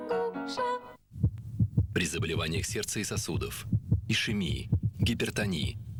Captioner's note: heartbeat